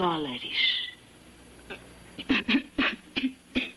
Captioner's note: coughs